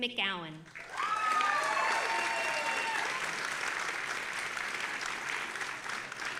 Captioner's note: audience applauding and cheering